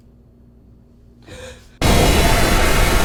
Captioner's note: gasping; unnerving music